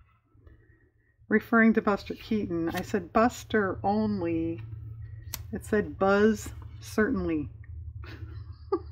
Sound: laughs

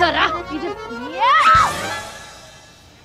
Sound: yelling

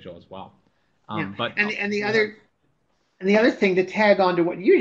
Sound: voiceover

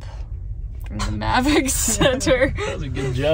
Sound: laughs

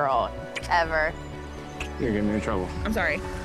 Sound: kissing sounds

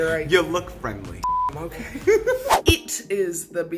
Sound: beep

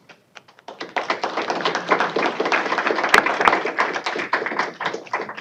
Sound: applause

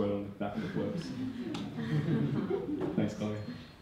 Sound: audience laughing

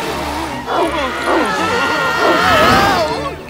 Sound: screaming

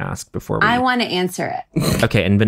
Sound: john laughs

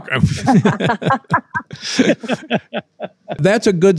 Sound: everyone laughing

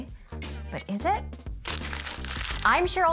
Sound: graphics crinkling

